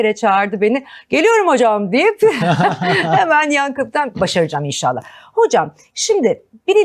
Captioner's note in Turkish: kahkaha